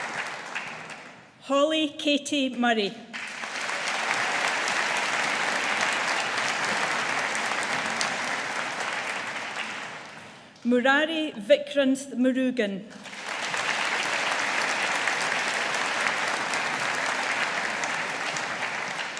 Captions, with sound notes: Holly Katie Murray. (AUDIENCE APPLAUDING) Murrari Vikranth Murugan. (AUDIENCE APPLAUDING)